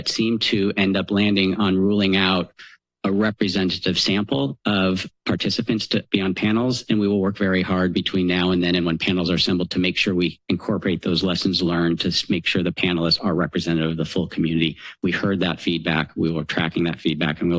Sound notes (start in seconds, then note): none